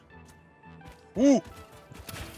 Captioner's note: monkey noise